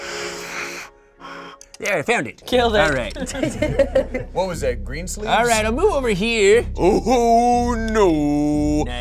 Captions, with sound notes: (pipe whistling) - There, I found it. - Killed it. - All right. - What was that, Greensleeves? - All right, I'll move over here. - Ooh, no.